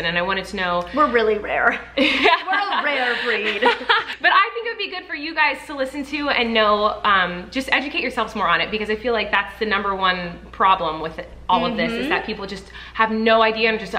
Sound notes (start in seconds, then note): 1.8 chuckles; 2.1 laughs